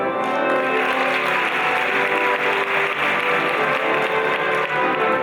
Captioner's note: audience applauding; lively classical music